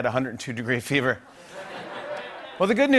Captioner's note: laughter